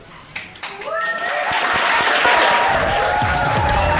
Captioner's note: applause